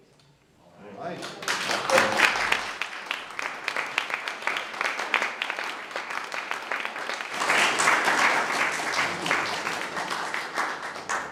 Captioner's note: applause